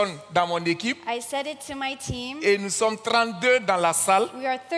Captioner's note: continues in French; continues in French